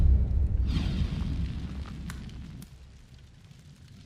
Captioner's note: dramatic music; whooshing